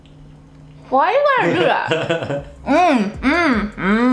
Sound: laughing

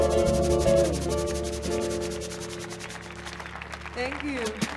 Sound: group clapping

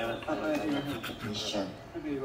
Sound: laughing

